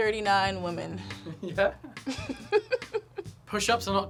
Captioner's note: laughs